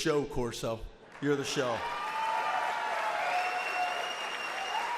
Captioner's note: audience applauds